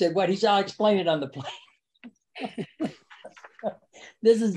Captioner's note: laughs